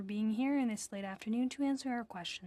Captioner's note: speaking FRENCH